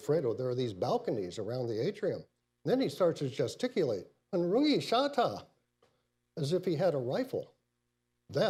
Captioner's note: speaks in Mandarin